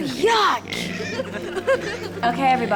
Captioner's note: everyone laughs